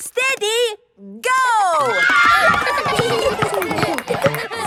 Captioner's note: kids screaming; laughter